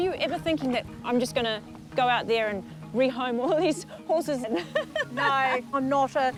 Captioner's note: laughs